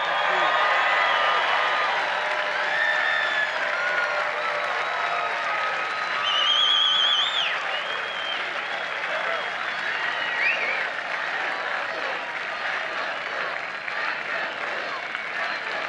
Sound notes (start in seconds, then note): 4.1 applause; 5.5 crowd chanting